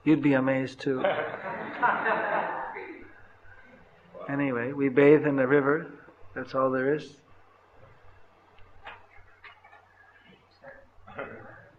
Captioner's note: laughter